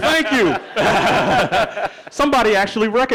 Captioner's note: laughing